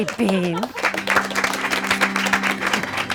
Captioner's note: audience applauding; sad organ music